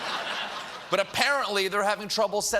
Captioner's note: laughter